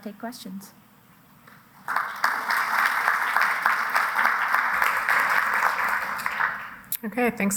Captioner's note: applause